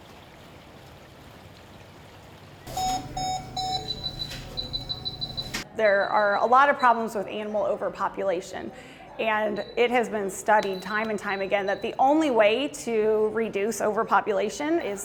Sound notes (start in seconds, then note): 0.0 water trickling; 2.6 monitor beeping